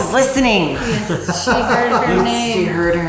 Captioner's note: laughs